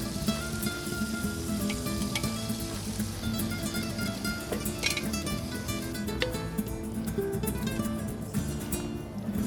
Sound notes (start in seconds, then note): 1.0 sizzling; 1.0 spanish guitar music